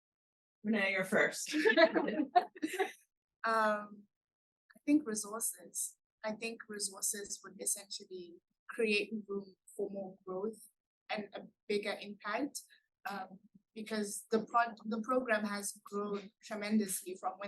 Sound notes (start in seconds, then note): 1.5 laughs